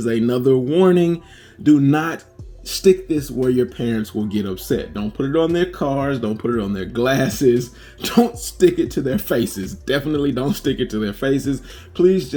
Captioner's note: laughing